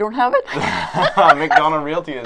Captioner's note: laughter